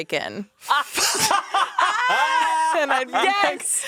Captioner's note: everyone laughs